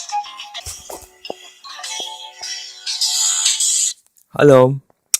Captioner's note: a ringtone plays